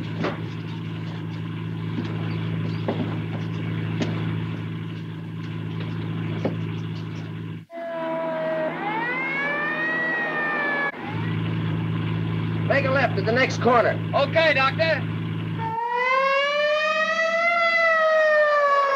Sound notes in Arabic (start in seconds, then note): 7.6 صافرة الإنذار تدوي; 15.5 صافرة الإنذار تدوي